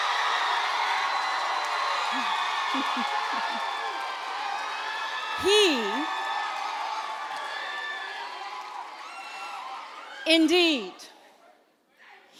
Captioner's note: applause